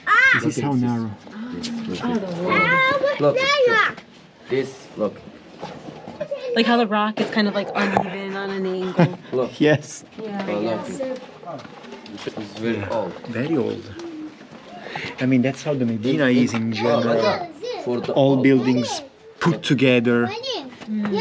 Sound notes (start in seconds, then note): 7.3 laughs